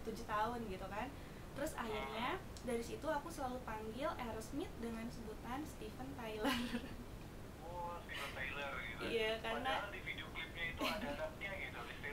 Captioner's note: laughing